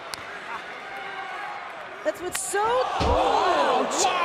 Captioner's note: crowd chatter